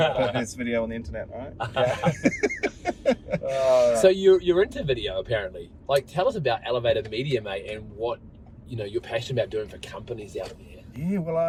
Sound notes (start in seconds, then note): 1.6 group laughs